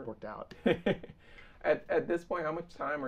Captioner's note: laughing